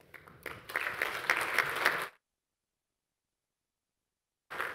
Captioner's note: audience applauding